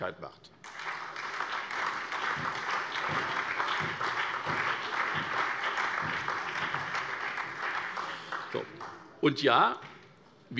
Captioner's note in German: Beifall SPD, BÜNDNIS 90/DIE GRÜNEN und DIE LINKE